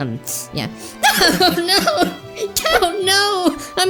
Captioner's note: starts crying